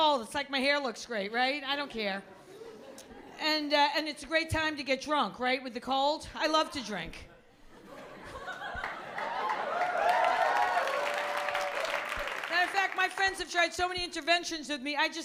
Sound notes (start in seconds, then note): 7.3 laughter; 8.8 applause